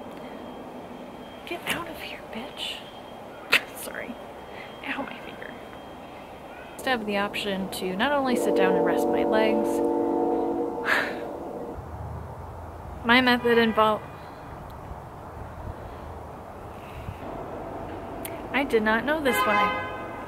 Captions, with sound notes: Get out of here, bitch. Sorry. Ow my finger. Nice to have the option to not only sit down and rest my legs... (loud train horn) My method involve- (car horn) I did not know this when I- (car horn again)